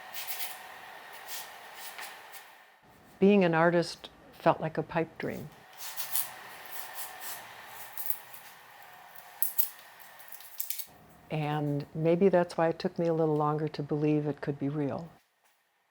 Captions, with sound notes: (pastel stick scratching) - Being an artist felt like a pipe dream. (pastel stick continues scratching) (wrapper rustling) And maybe that's why it took me a little longer to believe it could be real.